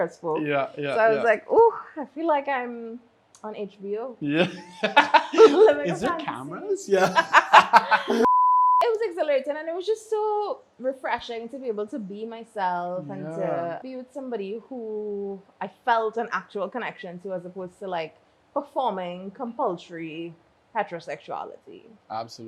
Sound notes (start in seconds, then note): 4.2 laughs; 8.2 beeps